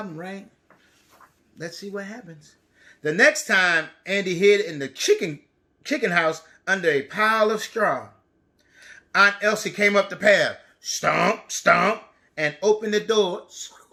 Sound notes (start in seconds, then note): none